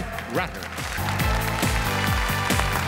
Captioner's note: audience applauds; upbeat music